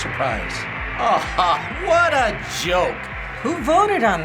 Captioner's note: sardonic laugh